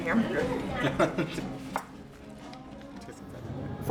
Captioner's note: laughs